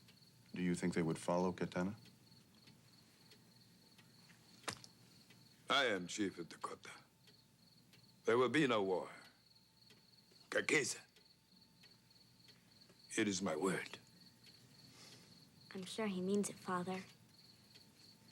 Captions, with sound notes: Do you think they would follow Kehtana? - I am chief of Dakota. There will be no war. (Tukenbheska speaks Indigenous language) It is my word. - I'm sure he means it, Father.